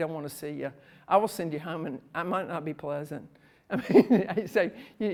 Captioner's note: laughs